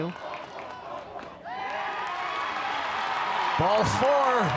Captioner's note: crowd cheers